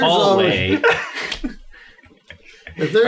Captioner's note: laughs